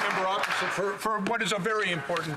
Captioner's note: applause